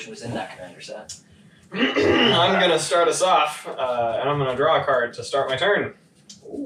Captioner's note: clears throat